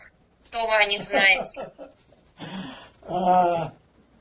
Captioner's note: laughing